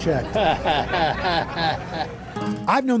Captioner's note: chuckles